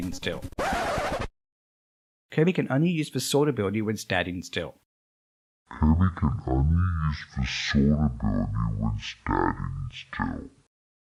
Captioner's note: record scratching sound